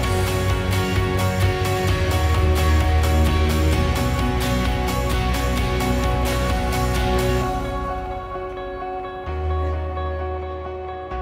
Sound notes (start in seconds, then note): none